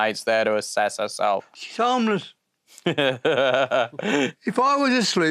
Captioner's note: laughs